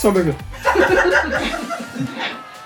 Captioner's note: laughs